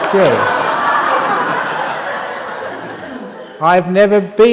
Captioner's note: laughter